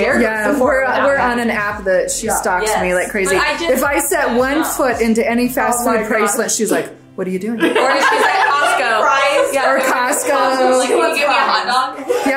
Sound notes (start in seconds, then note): 7.5 group laughs